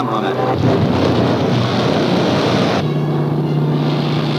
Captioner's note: booming